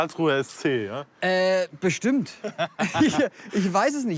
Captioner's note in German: Lachen